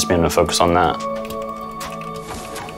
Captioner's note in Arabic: صوت نقر على لوحة مفاتيح الكمبيوتر وأجواء لعبة Fortnite